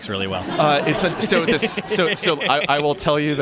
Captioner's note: laughter